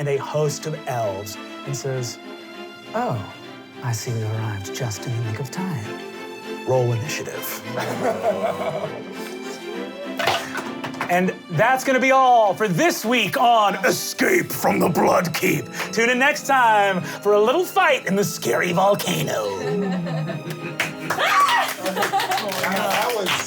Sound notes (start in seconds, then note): 7.7 laughing; 10.2 dice clacking; 19.4 laughing and applause